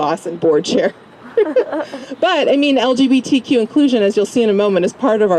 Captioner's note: laugh